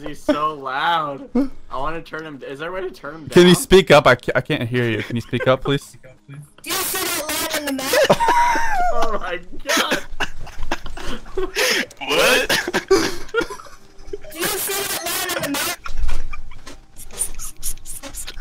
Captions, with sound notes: Oh my gosh he is so loud. Can we turn him down? Can you speak up? I can hardly hear you... Can you speak up, please? (giggling) (kid screaming)